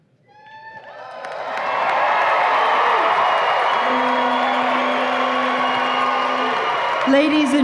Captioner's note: audience applause and cheers